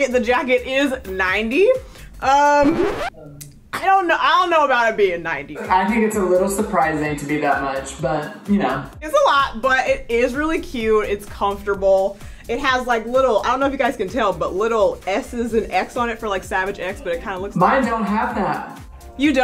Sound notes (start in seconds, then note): 2.4 record scratching